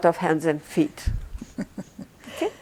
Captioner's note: laughing